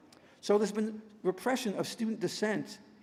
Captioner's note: none